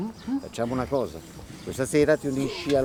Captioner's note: none